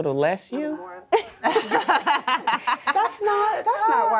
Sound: laughter

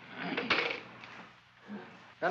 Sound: phone clatters down

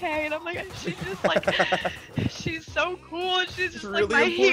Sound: laugh

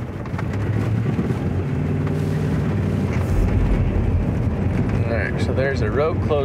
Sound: tires rumbling; somber music

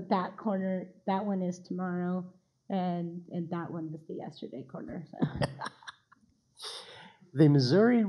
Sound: laughing

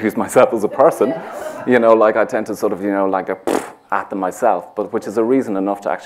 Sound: laughs

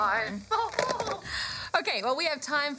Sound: laughs

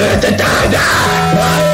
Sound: painful scream

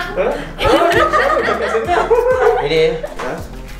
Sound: laughs

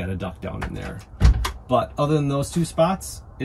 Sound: door closing

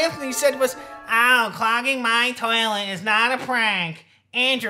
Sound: mocking

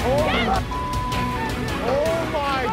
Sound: beep

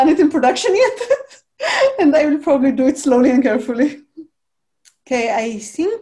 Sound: chuckles

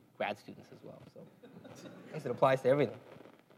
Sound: laugh

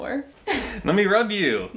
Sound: laughs

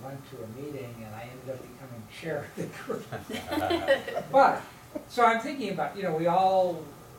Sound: laughter

